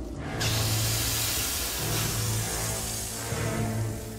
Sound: hissing

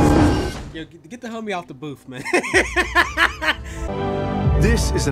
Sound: dramatic music; laughs

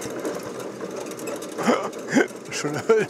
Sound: engine stops

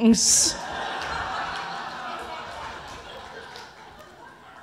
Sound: audience laughing

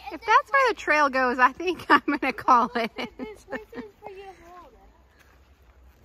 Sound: laughs

